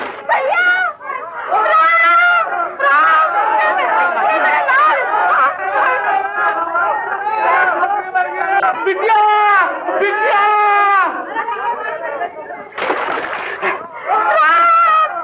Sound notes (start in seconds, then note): 5.6 shouts continue in the background; 11.0 muffled voices in the background